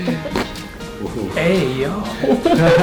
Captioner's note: patients laughing; cracking noise; both laughing